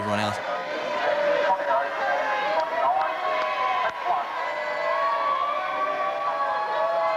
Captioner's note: shouting and tannoy announcement